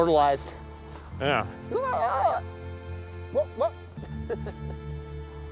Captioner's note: excited shouting